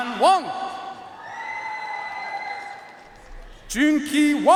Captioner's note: audience cheering and applauding